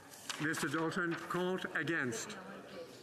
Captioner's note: speaking French